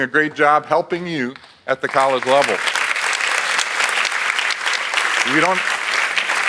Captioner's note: audience applauds